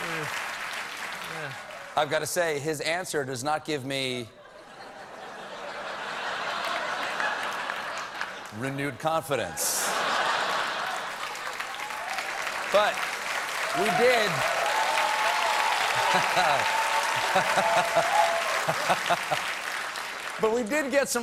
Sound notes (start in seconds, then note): 0.0 applause; 9.6 laughter; 9.9 applause